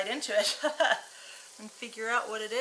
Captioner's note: chuckling